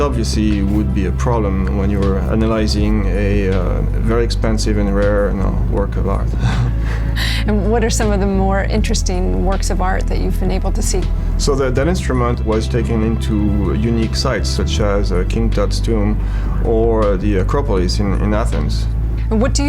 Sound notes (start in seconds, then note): 6.3 laughs